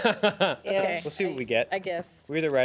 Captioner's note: man laughs